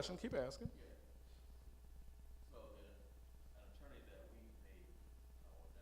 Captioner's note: male audience member speaking